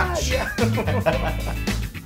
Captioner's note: laugh